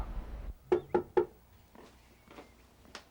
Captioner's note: knock on door